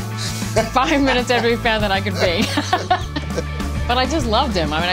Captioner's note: laughs